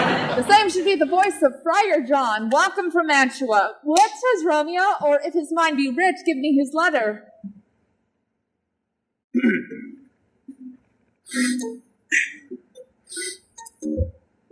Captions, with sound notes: This same should be the voice of Friar John.— Welcome from Mantua. What says Romeo? Or, if his mind be writ, give me his letter. [clears throat]